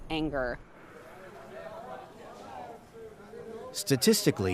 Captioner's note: people talking in background